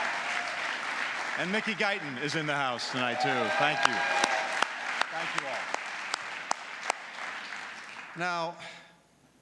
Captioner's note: applause